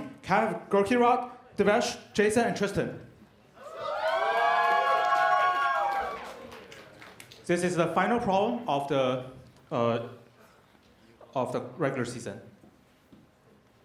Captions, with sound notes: Can I have Gurkirat, Devesh, Jason, and Tristan? [CHEERS AND APPLAUSE] This is the final problem of the regular season.